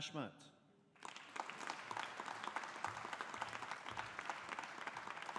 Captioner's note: audience applauding